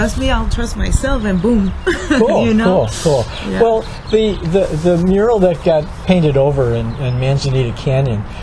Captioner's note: laughs